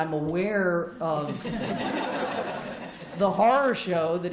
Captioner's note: laughter